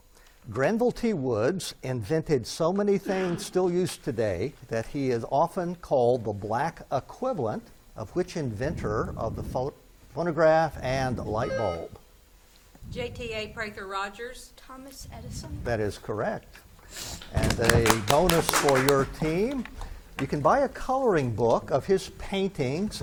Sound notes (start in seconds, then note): 11.7 buzzer beeps; 17.1 spectators clap